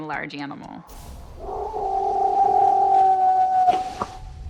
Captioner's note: howling, knocking